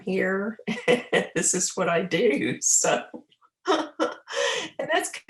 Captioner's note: laughing